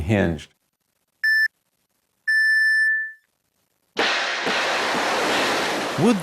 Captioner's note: electronic beep, missiles take off